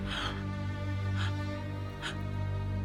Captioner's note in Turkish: Nefes sesi